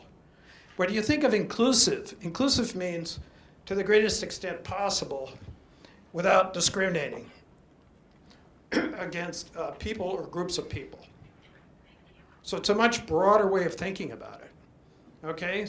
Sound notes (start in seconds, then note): 8.7 clears throat